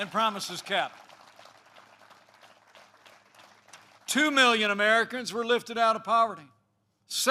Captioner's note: applause